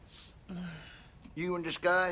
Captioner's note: sniffs